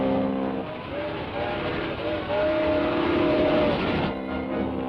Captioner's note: whistle toots; engine hums